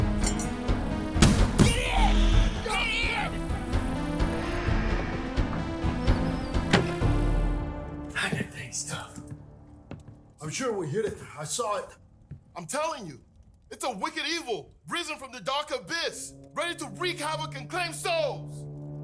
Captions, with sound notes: [Metal clank] - Get in! Get in! - Go! Go! Go! [Door slam] God, that thing is tough! I'm sure we hit it. I saw it. I'm telling you, it's a wicked evil risen from the dark abyss, ready to wreak havoc and claim souls.